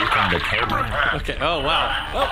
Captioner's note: call disconnects